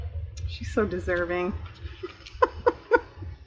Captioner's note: laughs